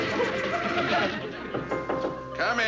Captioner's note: knocking